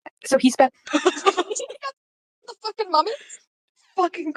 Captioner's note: shocked laughter